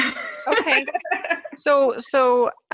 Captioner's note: laughs